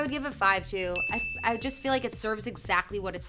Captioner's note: bell dings